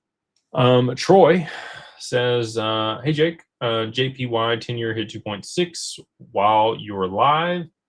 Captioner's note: sighs and gasps